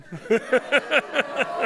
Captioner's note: laughter; audience ohhs